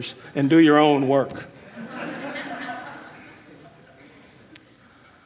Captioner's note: crowd laughing